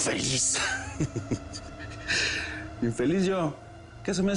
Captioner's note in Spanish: Risas